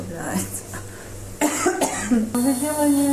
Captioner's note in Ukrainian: кашляє